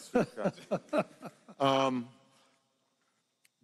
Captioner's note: laughter